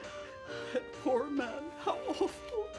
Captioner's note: sobs